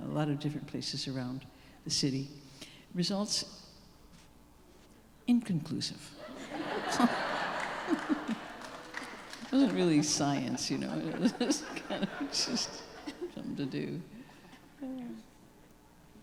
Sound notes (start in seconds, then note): 6.2 audience laughing